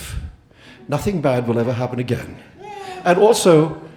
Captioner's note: audience laughing